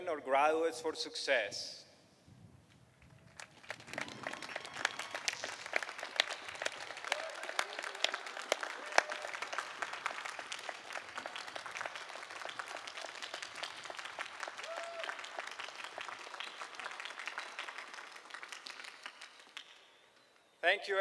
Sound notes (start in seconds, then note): 2.3 applause